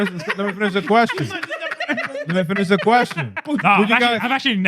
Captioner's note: laughing